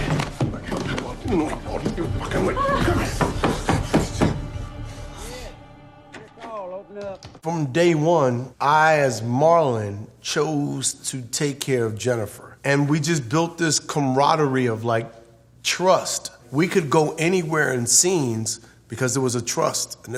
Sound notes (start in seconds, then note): 0.1 Ted mumbles with anger; 3.0 loud knocking on the door